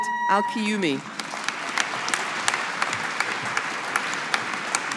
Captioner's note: audience applauding